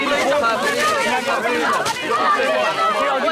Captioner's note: students shouting